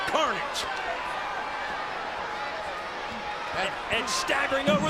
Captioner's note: audience chattering